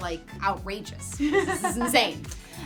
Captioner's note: laughs